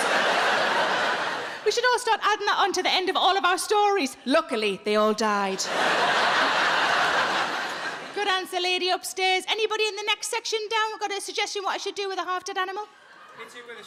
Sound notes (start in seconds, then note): 0.0 audience laughs; 5.5 audience laughs